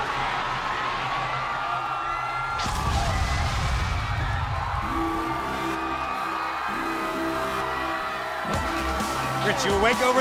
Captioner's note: cheers & applause